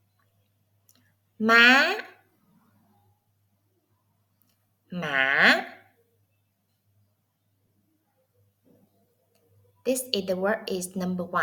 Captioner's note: Vietnamese